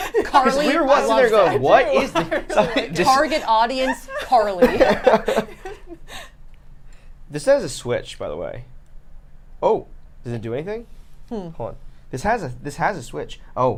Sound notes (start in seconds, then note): 5.0 group laughter